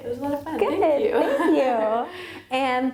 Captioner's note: laughs